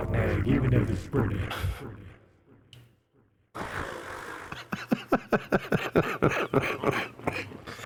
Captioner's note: laughter